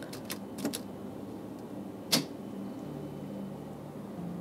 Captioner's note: button clicks